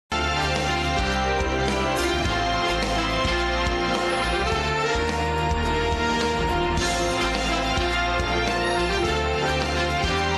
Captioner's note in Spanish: Aplausos